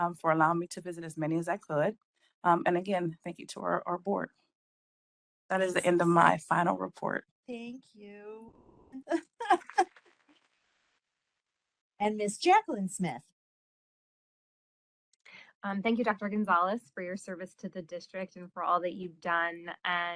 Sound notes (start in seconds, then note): 9.6 applause